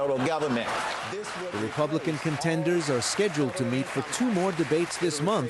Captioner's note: cheering and applause